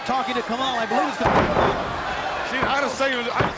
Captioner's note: body slamming